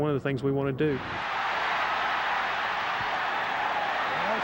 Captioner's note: crowd cheers